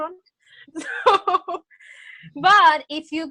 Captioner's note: laughs